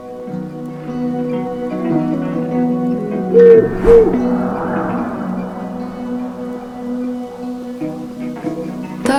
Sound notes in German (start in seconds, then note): 3.3 Eule ruft